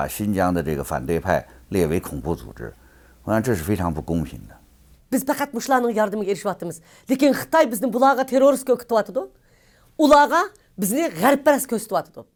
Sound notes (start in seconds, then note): 5.3 speaks in foreign language